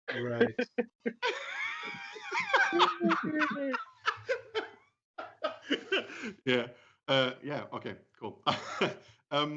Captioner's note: laughter